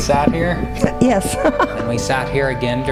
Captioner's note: laughing